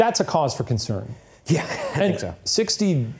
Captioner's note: chuckles